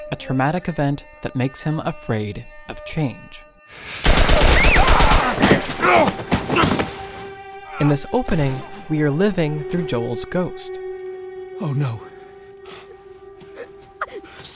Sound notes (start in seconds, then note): 4.0 gun firing; 4.5 screaming